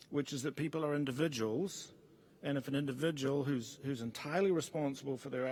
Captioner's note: none